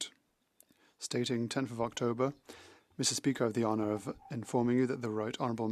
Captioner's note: speaking French